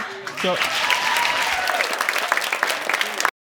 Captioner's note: audience applauding